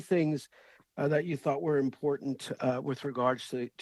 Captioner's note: speaking French